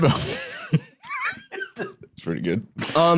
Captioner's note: laughs